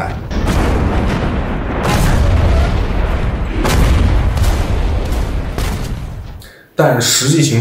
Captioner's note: sound of artillery